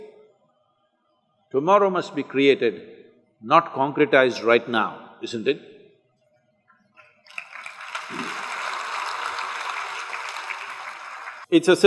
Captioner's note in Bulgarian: Аплодисменти